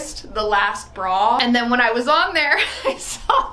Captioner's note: laughs